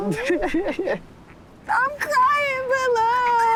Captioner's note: laughing